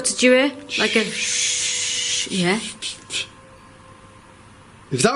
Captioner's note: both imitate static buzz